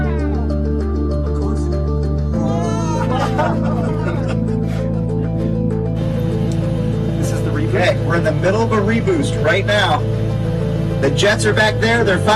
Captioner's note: laughter